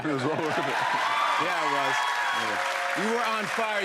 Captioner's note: cheers and applause